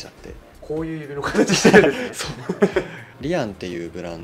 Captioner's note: laughs